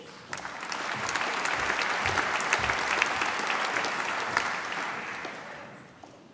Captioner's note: applause